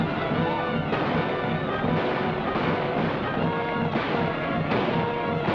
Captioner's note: gunfire